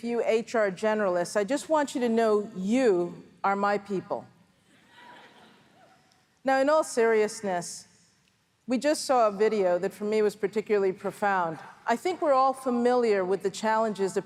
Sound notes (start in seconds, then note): 5.0 laughter from audience